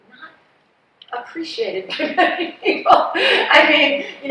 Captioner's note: laughs